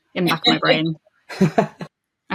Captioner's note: laughs